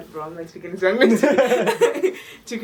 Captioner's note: jajajaja